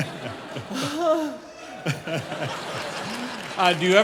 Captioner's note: chuckling; Kevin sighing; audience laughing